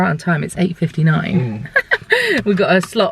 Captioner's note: laughing